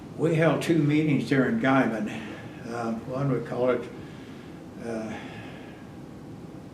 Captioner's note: laughs